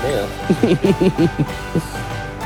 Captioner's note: laughs